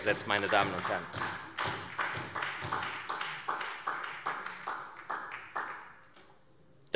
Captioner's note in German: Beifall SPD